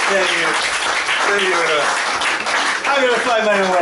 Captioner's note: applause